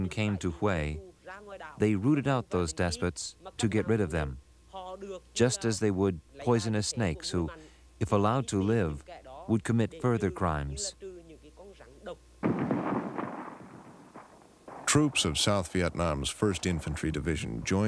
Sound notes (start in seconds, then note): 12.4 guns firing